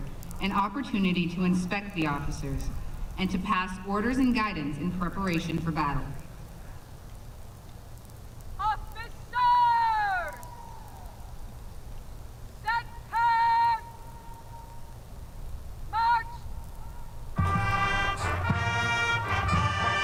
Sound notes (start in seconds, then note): 8.5 shouted commands; 17.4 music and shouted commands